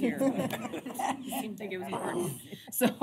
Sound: laughter

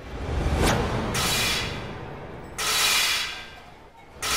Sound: clanging

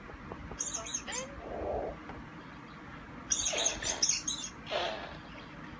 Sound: mouse squeaking

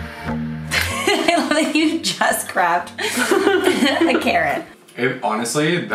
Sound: laughs

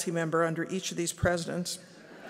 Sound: laughter

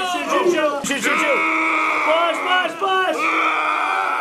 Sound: yelling; groaning

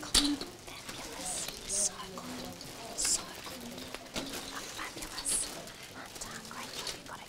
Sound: whispering

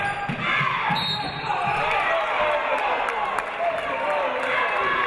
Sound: referee blows whistle; audience applauding

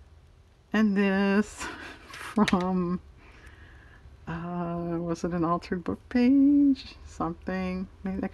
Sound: laughs

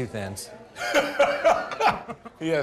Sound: laughing

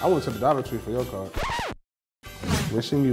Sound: record stops

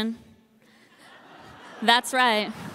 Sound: audience laughing

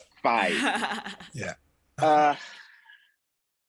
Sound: giggling

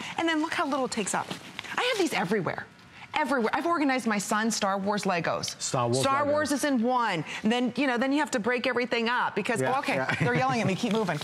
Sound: laughter

